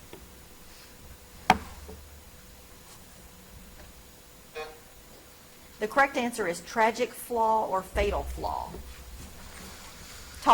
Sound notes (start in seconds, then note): 4.2 timer buzzes